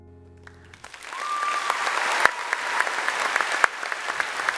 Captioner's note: applause